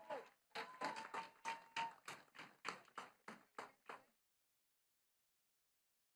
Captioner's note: attendees cheering and clapping